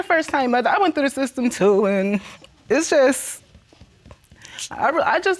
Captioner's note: voice breaking